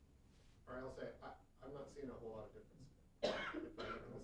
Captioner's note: voiceover